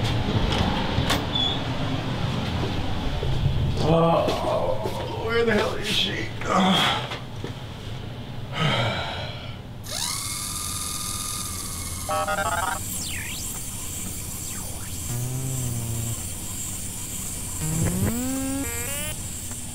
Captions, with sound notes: Where the hell is she? (robotic beeps)